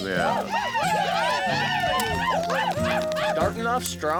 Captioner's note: cheering